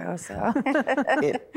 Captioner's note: laughing